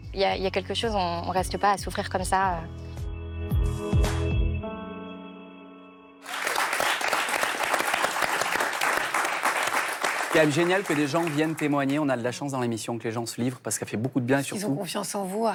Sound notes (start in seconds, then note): 6.2 applause